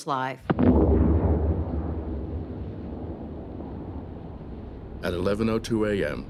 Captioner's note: explosion echoes